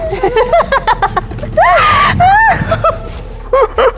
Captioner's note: sounds of laughter coming from somewhere